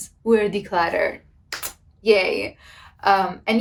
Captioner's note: claps